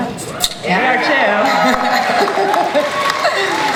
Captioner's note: audience cheering and clapping; laughter